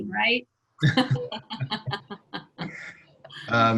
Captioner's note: all laugh